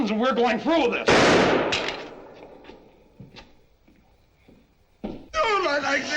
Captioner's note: gunshot